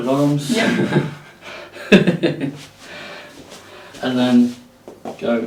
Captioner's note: laughs